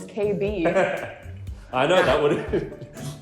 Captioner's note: laughing